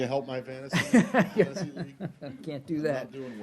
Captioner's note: laughter